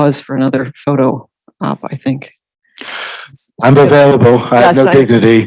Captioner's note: laughing